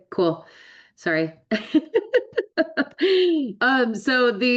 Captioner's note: laughs